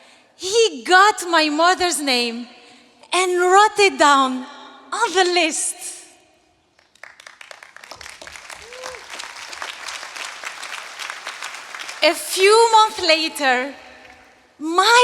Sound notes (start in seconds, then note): 6.7 applause